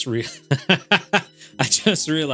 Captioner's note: laughs